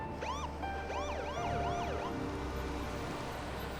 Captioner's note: siren chirping